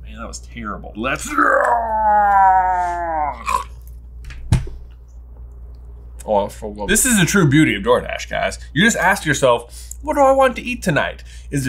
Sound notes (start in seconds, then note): 1.3 growls